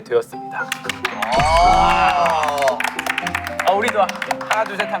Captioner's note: applaud